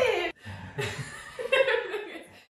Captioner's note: laughs